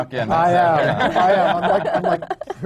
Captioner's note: laughter